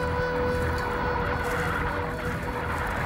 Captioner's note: locusts buzzing